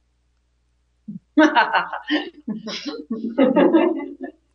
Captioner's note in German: Gelächter